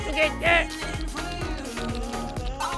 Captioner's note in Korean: 파닥 파닥